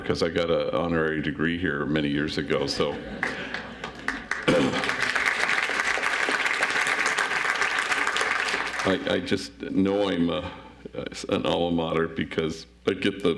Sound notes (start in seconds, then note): 3.2 audience applauds